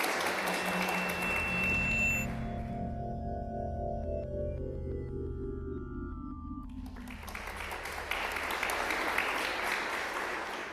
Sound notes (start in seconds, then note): 0.2 drone-like music; 6.7 applause